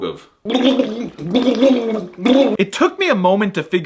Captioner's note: spitting water